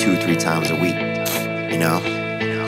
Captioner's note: Theo sniffles